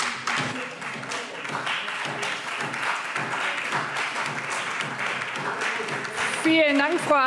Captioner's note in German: Beifall SPD und Freie Demokraten